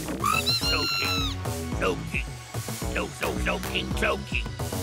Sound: Slowking muttering

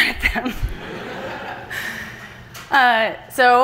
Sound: laughter from the audience

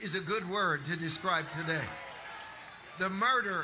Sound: audience applauding

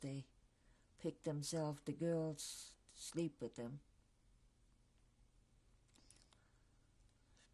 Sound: pauses for 3 seconds

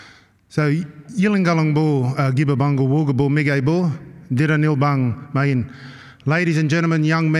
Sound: non-english speech

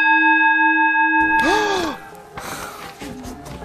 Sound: sucks in a breath

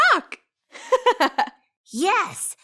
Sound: laughing

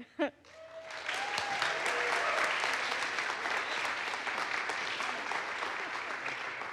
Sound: audience applauds; audience cheers

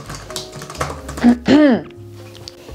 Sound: clears throat

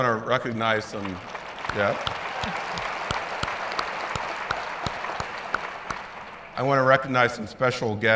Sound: applause

